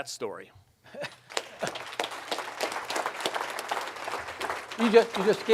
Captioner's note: audience applauds